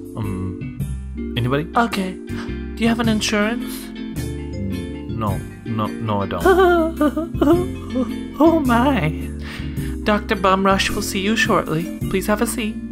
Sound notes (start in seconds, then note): 0.7 smooth jazz; 2.3 smooth jazz; 6.5 Doctor's assistant is giggling; 9.1 smooth jazz; 11.6 smooth jazz